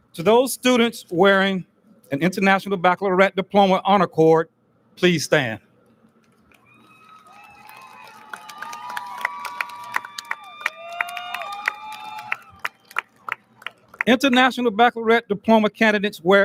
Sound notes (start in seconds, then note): 6.5 audience lauds